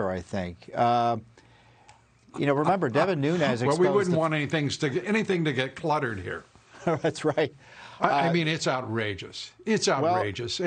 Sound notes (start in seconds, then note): 6.7 laughter